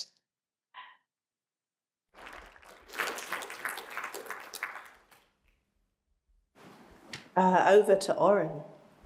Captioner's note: applause